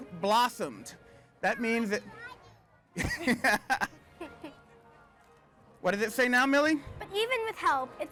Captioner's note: laughs